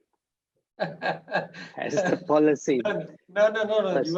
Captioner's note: laughs